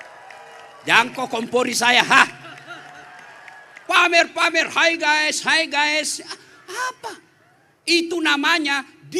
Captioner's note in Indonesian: tertawa